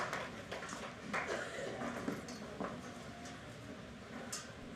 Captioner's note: applause